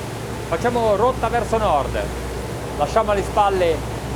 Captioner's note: speaking in foreign language